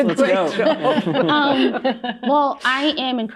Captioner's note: laughter